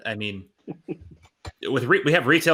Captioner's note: laughing